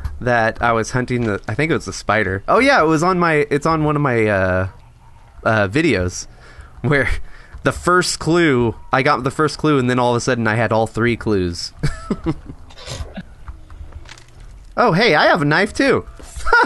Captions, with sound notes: I was hunting that I think it was a spider. Oh yeah, it was on my it's on one of my Videos where the first clue, I got the first clue and then all of a sudden. I had all three clues oh *Laughing* Hey, I have a knife -